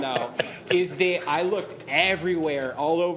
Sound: laughter

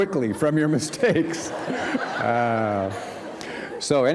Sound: laughter

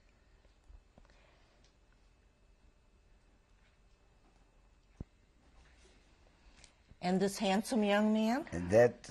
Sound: pauses for 7 seconds

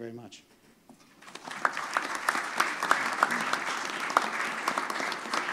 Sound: applause

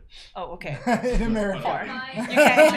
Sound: chuckling; laughing

